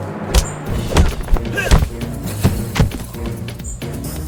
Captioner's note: ominous music; kicks thudding; exciting beat music